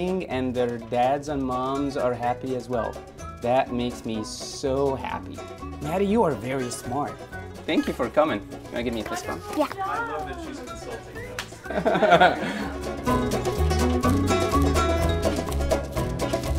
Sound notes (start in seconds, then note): 11.6 laughs; 13.0 upbeat playful music